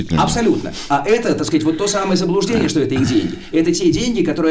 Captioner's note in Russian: откашливается